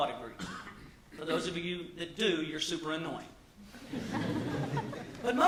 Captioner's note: laughter